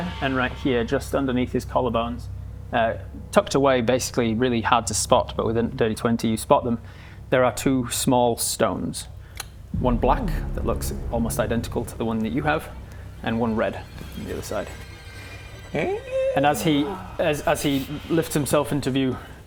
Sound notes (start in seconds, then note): none